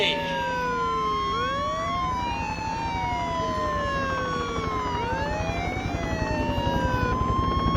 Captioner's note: sirens and helicopter continue